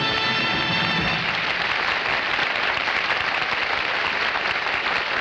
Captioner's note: audience applauding